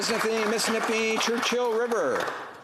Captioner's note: applause